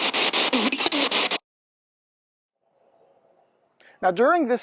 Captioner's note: voice blurts